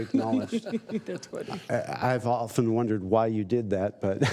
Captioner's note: laughter